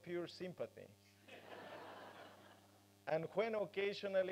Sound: laughter

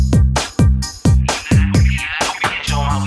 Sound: digitized voice

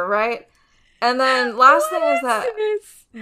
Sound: laughing

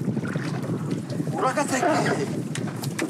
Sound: Portuguese spoken audio

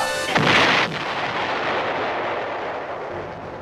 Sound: ka-boom!!!

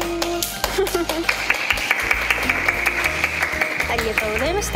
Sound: applause

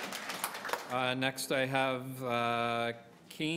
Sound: applause

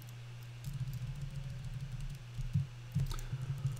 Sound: typing

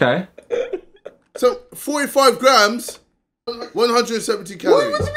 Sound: man laughing

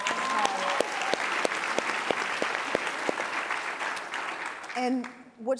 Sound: applause

